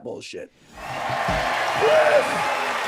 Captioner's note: audience applauding, cheering